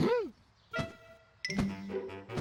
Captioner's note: gasping